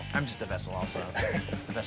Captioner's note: laughs